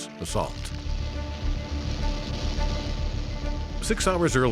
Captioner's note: planes taking off